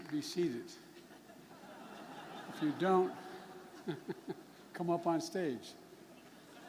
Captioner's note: laughter